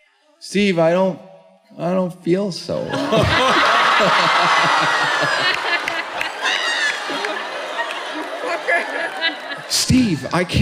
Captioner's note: laughter